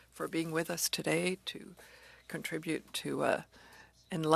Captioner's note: speaking French